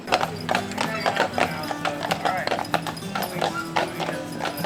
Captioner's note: horse shoes clopping